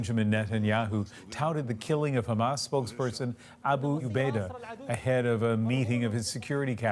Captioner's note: speaking alternate language